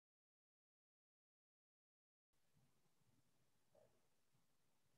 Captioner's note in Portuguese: sem áudio